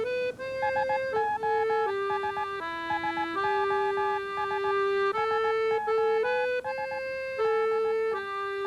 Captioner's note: morse code